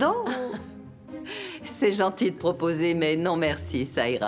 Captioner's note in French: chuckling